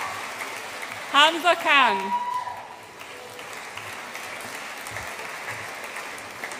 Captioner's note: audience applauds and cheers